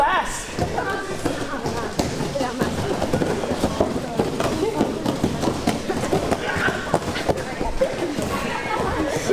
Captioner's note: footsteps